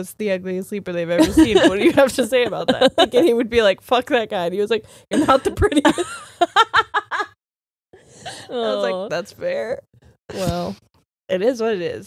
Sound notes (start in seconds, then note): 5.2 both laughing